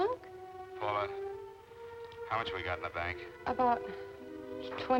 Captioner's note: on telephone